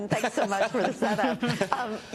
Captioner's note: laughter